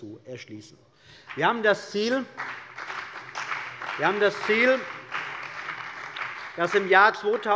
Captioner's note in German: Beifall bei der CDU und dem BÜNDNIS 90/DIE GRÜNEN